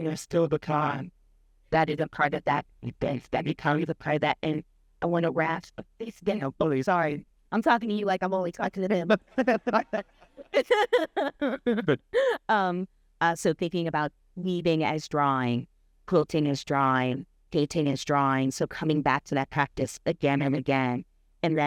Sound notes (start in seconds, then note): 10.4 laughing